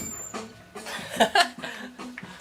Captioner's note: laughter